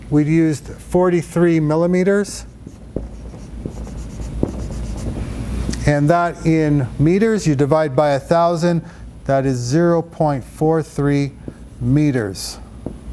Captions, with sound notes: we've used 43 millimeters. (marker squeaks) And that in meters, you divide by 1,000. That is 0.43 meters.